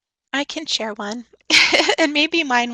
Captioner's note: chuckles